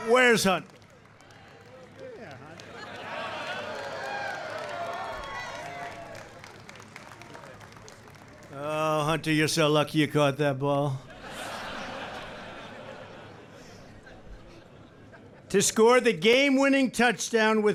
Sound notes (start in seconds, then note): 2.1 applause; 11.1 laughter